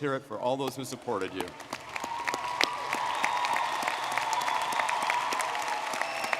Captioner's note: students clapping and cheering